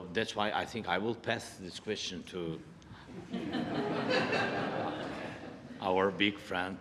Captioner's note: laughter